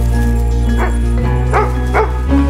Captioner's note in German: Lautes Bellen